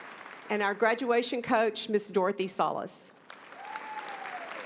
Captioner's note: applause